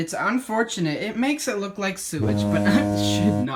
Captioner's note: fog horn; laughing